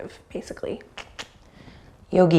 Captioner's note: clicks tongue